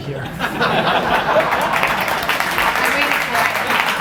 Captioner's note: applause